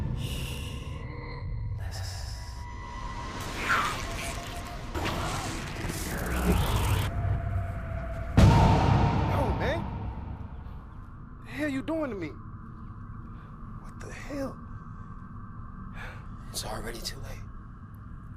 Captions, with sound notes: - Sh. Listen. (eerie music) (dramatic bang) - Yo, man. What the hell you doing to me? What the hell? - It's already too late.